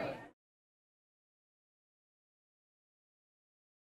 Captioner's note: audio cuts out